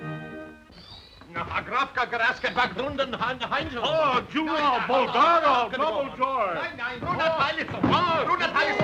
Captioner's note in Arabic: صرير الباب مفتوحا; الرجال يتحدثون بصوت عالٍ بلغة أجنبية; الرجال يصرخون على بعضهم البعض